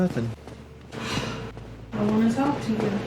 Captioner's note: sighs